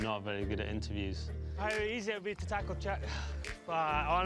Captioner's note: sighing